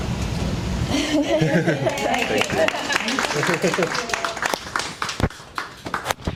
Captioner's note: laughter, applause